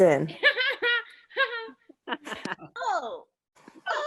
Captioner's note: attendees laughing